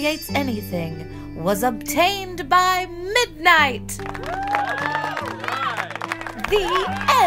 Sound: people cheering

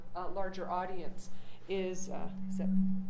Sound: microphone distortion

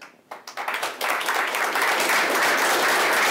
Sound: applause

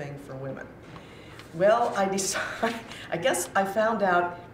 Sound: chuckles

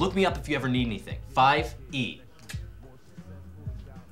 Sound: clicks tongue

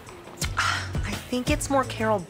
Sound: Benny sighs

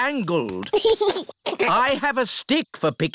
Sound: giggles

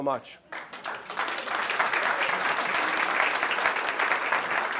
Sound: audience clapping

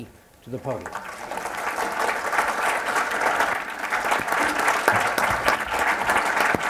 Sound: applause

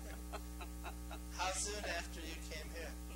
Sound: laughing together

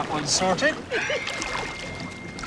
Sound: watch chimes

